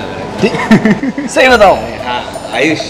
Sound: laughing

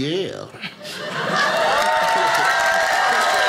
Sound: audience cheers; audience applauding

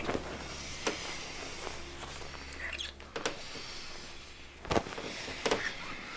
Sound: heavy breathing and moaning

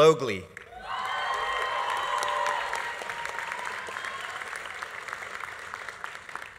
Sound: audience applauding; audience cheering

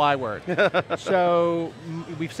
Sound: laughs

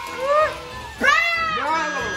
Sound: screams

